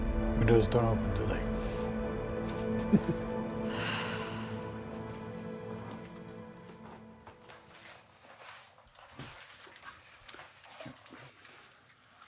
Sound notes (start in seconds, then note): 2.5 laughs; 3.5 sighs